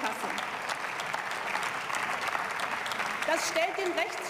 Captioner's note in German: Beifall